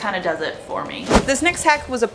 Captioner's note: whooshing